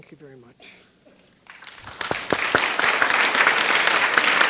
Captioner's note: applause